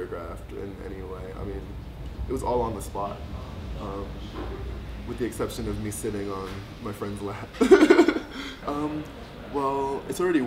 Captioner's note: laughs